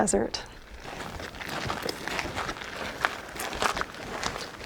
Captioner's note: feet stomping